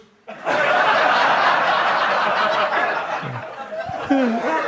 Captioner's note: audience laughs